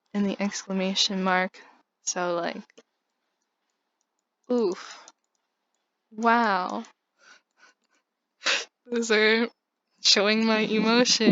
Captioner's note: laughs